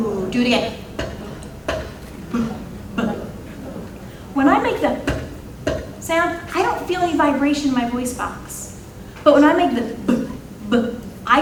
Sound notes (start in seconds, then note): 2.2 imitating sounds